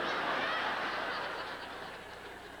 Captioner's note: laughter